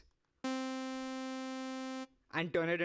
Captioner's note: beeping